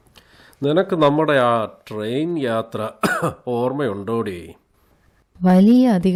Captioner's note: coughs